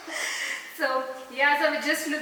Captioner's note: giggle